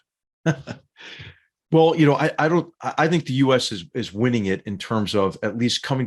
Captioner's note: laugh